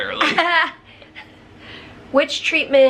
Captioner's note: chuckles